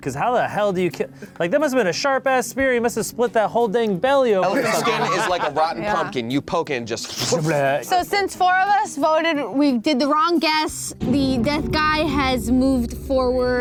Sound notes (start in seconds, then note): 4.4 laughing; 7.1 sound effect